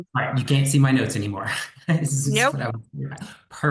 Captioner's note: laughs